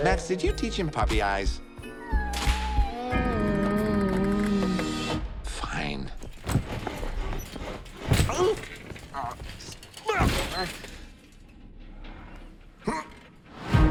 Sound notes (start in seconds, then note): 1.9 animals whine; 8.2 Grinch grimaces in pain